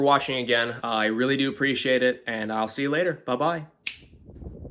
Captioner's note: snap